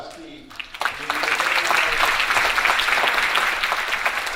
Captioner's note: audience applauding